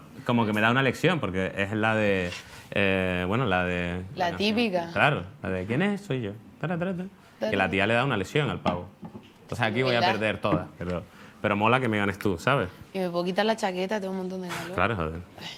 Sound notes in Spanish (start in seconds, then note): 6.7 canturrea